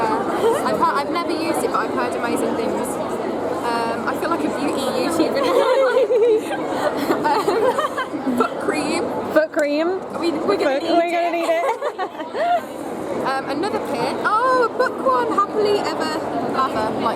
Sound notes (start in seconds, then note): 8.6 laughter